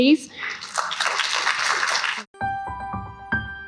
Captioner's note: applause